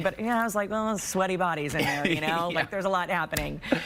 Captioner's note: laughter